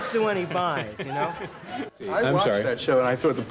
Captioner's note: interviewer Laughs